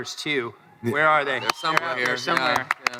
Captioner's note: crowd cheering